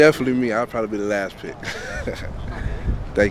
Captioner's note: laughs